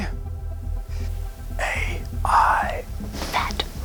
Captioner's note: whispers